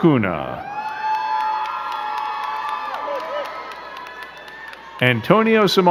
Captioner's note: crowd cheering and clapping